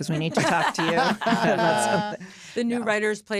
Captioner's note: all laughing